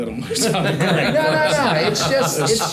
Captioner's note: everyone laughs